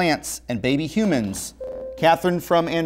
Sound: beeping

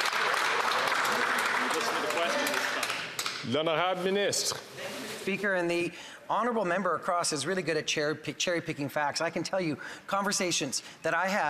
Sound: some Applause

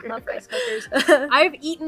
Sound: laughs

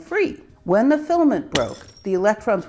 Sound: shuttering glass

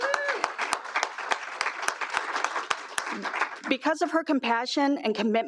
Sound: applause

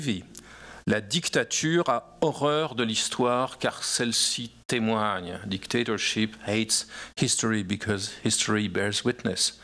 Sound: speaking french

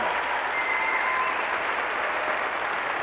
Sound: applause

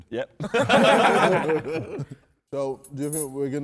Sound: men laughing

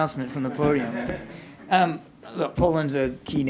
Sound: laughter

